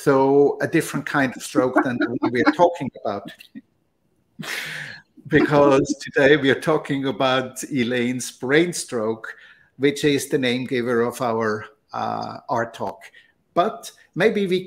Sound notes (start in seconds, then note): 5.3 laughter